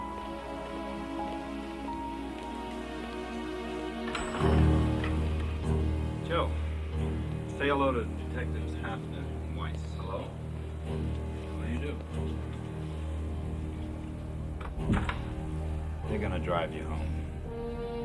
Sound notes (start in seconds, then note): 0.1 suspenseful music continues; 4.0 bell rings; 4.1 door clicks; 14.3 doors clattering; 17.8 dramatic music